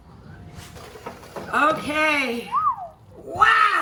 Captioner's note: whistling